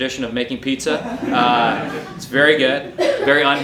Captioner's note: audience laughing